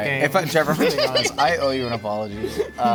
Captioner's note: laughing